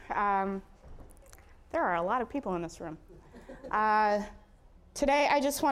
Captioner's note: audience chuckling